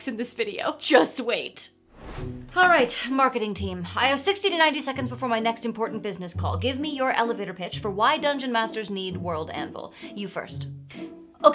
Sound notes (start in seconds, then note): 1.9 air whooshing